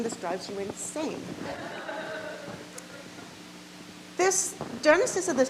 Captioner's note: audience laughs